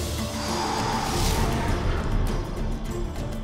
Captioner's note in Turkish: Üflüyor